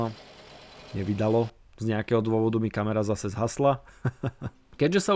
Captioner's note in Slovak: smiech